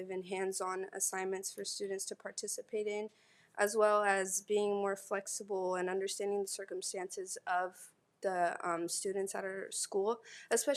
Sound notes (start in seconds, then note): none